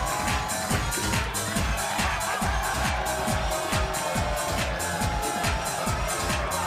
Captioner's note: audience jeering and cheering; bass-heavy music